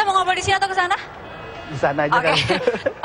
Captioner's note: non-english speech; laughter